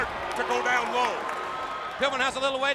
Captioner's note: crowd cheering